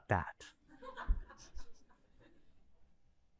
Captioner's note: laughter